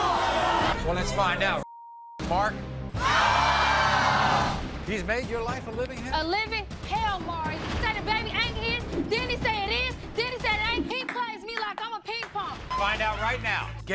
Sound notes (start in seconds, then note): 3.0 audience yelling